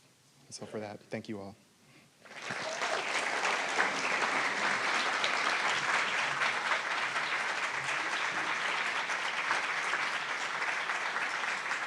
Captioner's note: applause